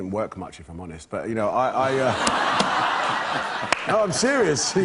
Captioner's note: laughter